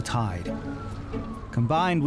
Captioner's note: lively music; siren wailing